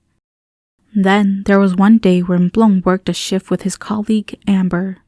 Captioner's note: none